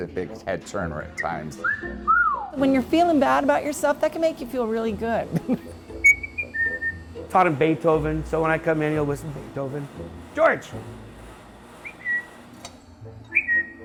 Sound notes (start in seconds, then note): 1.6 whistles; 6.0 whistles; 13.2 whistles